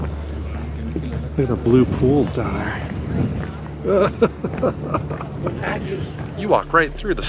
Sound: laughter

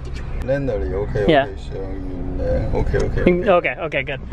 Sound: heavily accented speech

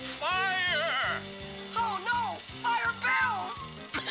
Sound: alarm ringing

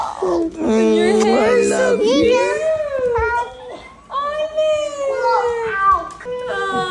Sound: lips smack

